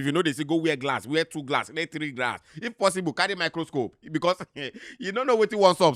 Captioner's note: chuckles